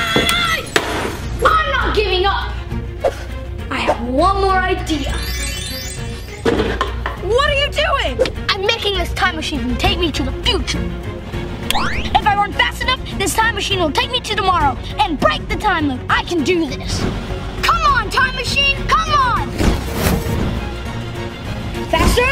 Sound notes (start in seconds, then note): 0.0 yells; 11.7 powers up; 19.2 dramatic music